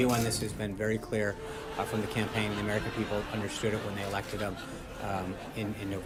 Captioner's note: raucous laugh track